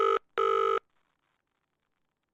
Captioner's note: phone ringing